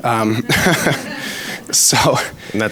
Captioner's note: audience laughs; laughs